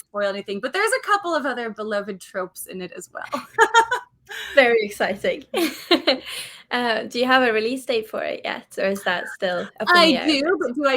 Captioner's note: laughs